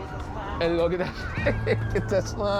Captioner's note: laughs